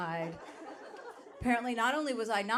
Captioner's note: audience laughing